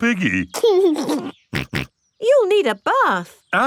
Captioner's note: giggles and snorts